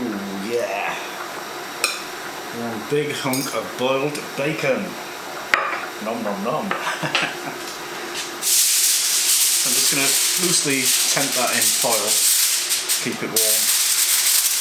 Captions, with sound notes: Ooh yeah... One big hunk of boiled bacon nom nom nom. [ LAUGHS ] I'm just going to loosely tent that in foil to keep it warm